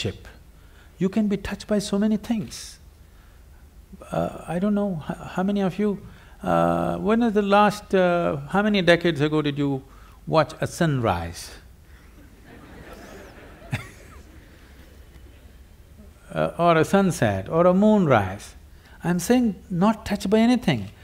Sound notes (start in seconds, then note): 12.0 laughter